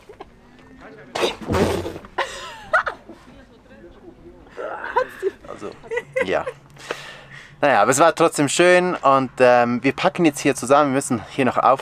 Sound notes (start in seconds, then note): 2.2 laughs loudly; 4.5 laughs; 5.2 in Swiss German